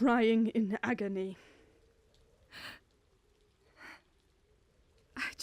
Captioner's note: sable inhales shakily